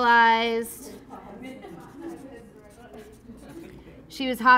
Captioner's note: class laughing